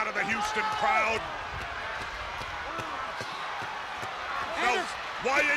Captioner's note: crowd cheering